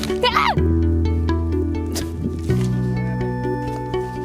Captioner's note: screams